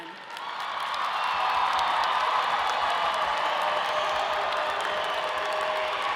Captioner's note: audience cheering and applauding